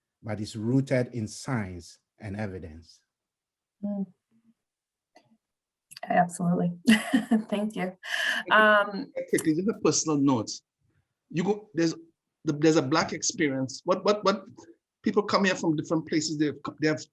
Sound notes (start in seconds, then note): 6.9 laughs